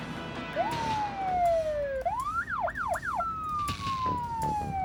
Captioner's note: siren wailing